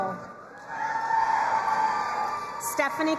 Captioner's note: crowd cheering and applauding